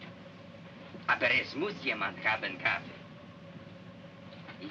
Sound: speaking in Russian

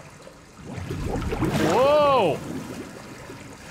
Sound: water bubbling

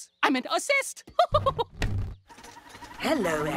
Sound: chuckles

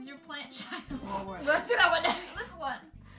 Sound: laughs

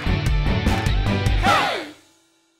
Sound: voiceover

